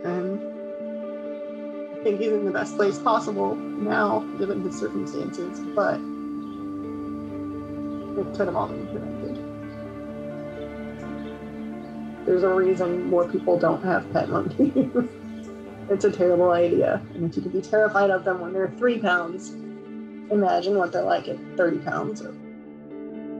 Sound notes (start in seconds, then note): 14.3 giggling; 23.2 serene music